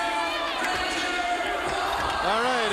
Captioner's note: crowd chatter